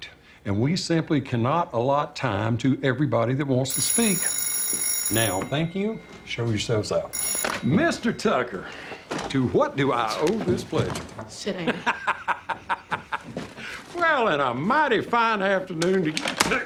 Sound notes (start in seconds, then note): 3.6 telephone rings; 11.5 chuckles